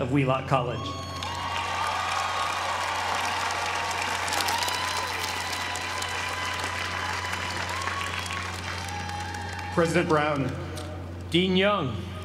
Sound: applause

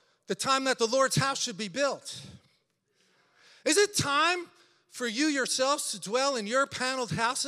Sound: none

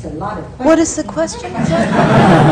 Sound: laughter

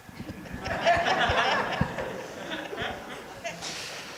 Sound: crowd laughter

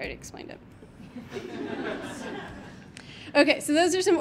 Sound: audience laughing

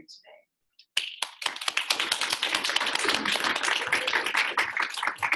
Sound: audience applauding

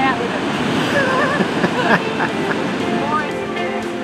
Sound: laughs

